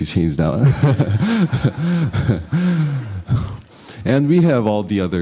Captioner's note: laughter